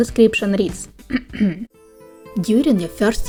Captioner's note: clearing throat